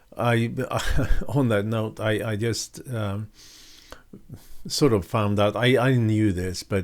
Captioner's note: chuckles